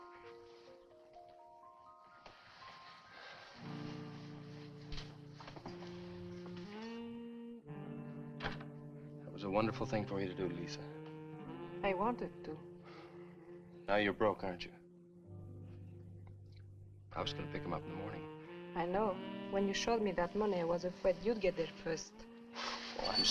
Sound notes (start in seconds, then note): 0.2 gentle music; 8.4 door thuds